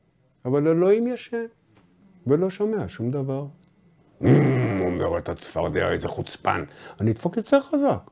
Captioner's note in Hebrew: רוטן